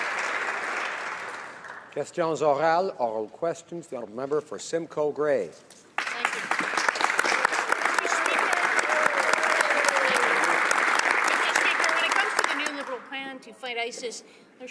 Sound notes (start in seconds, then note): 4.3 applause